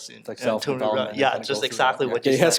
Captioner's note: mutters